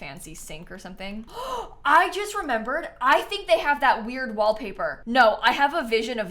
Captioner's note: gasps